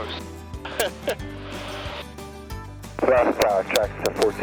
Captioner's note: laughing